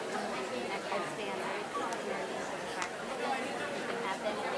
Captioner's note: woman quietly speaking